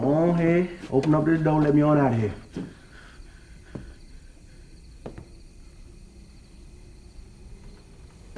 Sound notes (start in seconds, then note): 4.2 crickets chirping